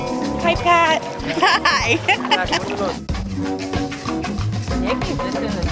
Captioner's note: laughs